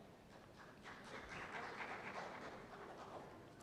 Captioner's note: applause